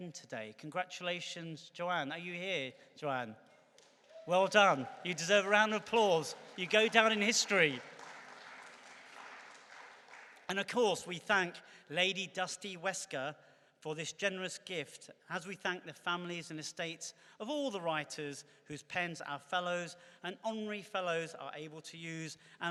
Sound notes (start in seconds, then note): 7.1 clapping